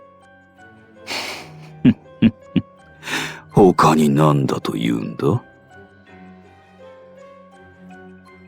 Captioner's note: chuckle